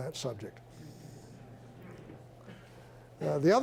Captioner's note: chuckling